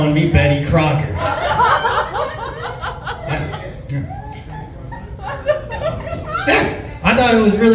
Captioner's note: chuckles